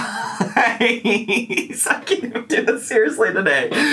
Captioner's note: laughs